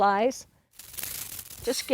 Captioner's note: dragonfly flutters